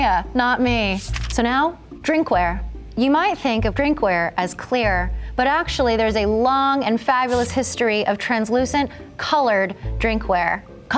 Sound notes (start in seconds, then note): 1.0 page flapping